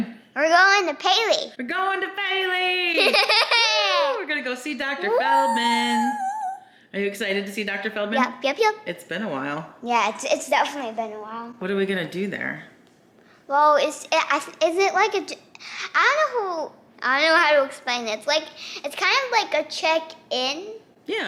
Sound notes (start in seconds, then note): 3.0 laughs; 5.6 exclaims